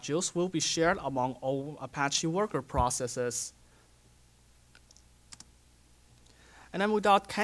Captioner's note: pause